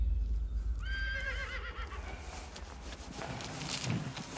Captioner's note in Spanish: Relincho